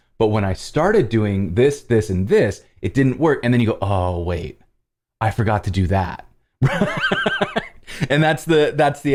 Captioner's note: laughter